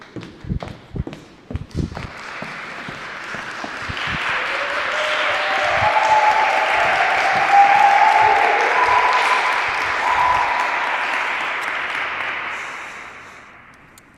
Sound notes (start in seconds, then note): 4.3 applause